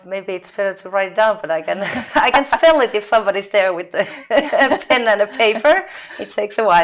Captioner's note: laughing